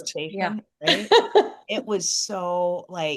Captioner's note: laughs